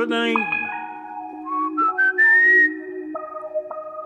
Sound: whistling

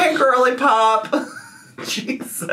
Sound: laughs

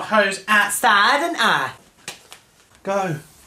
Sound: playfully

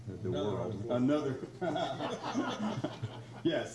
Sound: laughs

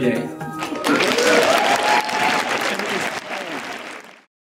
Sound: cheering and applause

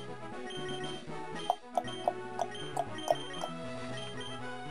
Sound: tongue clicking noises

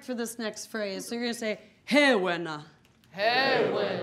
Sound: speaking in foreign language

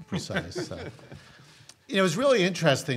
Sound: laughs

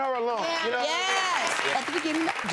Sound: applauding

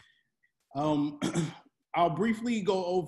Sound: clears throat

